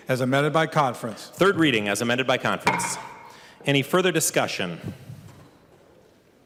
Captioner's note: gavel